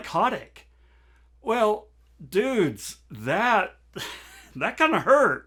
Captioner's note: laughs